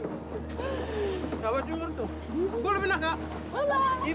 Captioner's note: speaks fijian